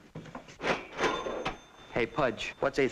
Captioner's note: register dinging